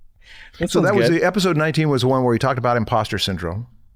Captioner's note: chuckles